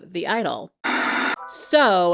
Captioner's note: static hisses